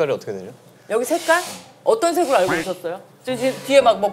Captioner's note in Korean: 지지지지직 지지지지직